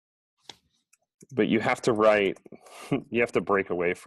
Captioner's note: chuckles